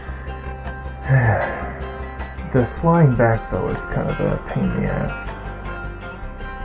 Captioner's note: sigh